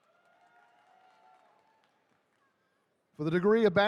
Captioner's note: attendees cheering